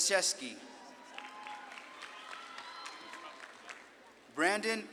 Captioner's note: audience claps and cheers